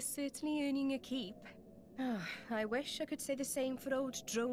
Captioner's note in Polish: westchnienie